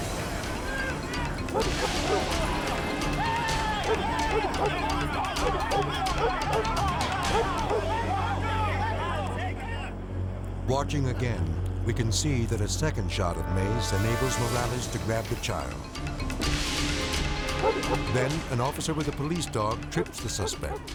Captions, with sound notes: (dog barks) (officers clamor) Watching again, we can see that a second shot of mace enables Morales to grab the child. Then an officer with a police dog trips the suspect.